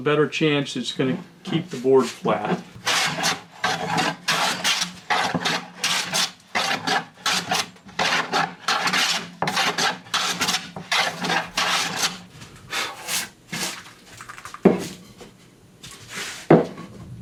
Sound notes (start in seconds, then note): 1.4 blade grinding on wood noise